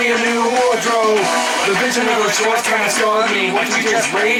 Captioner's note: aww!